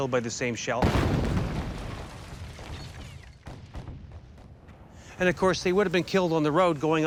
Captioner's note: artillery shell exploding